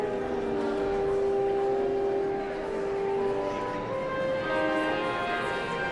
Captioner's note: somber organ music continues; audience chattering continues